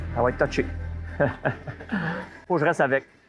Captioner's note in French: rire